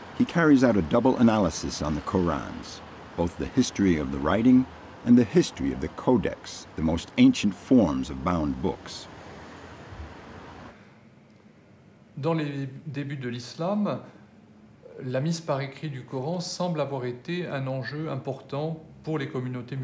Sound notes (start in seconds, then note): 12.3 speaking in a foreign language